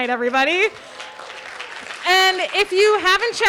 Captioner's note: audience applauding